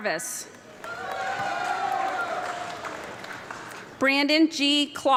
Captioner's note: audience clapping and cheering